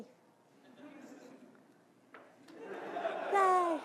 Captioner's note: audience laughing